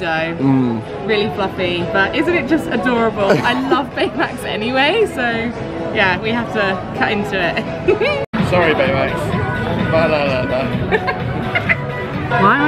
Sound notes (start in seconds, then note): 7.9 giggling; 10.7 giggling